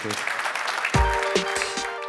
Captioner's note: applause